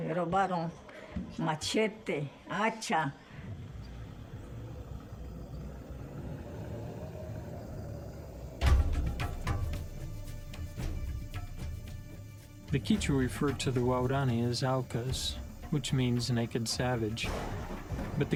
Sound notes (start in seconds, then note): 4.9 thunder claps in the background; 8.6 drum beats; 17.4 thunder claps